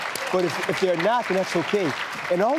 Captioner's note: cheering